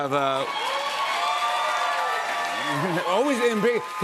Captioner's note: cheers and applause